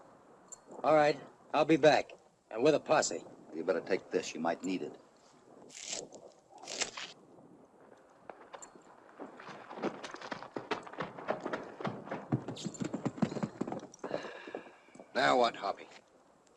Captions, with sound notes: All right, I'll be back. And with a posse. You better take this. You might need it. [ HORSE TROTTING ] Now what, Hoppy?